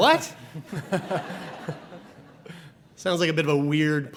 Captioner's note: audience laughs